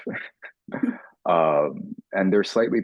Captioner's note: laughing